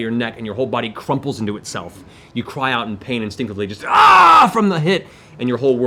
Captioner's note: screams